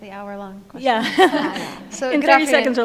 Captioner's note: panel laughs